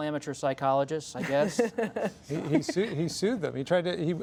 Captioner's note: laughter